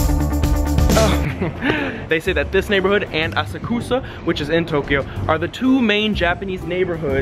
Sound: laughs

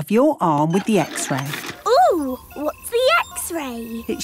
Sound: none

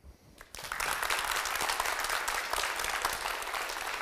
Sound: crowd applauds

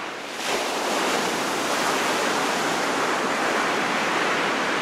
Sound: waves crashing

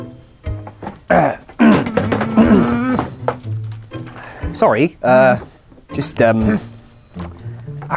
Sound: clears throat

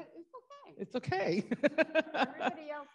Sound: laughs

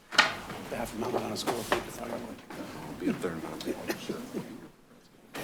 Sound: men speaking faintly

